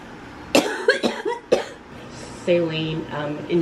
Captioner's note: coughing